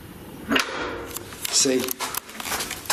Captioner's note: lock clicks